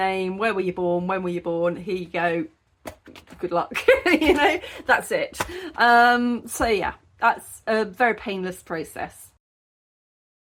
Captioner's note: laughing